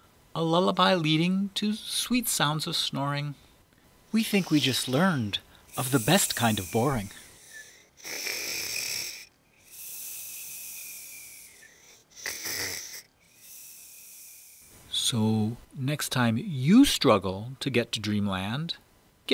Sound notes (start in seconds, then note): 7.4 snores